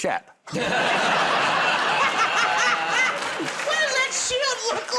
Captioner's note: laughter